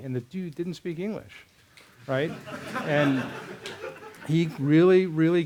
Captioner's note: laughter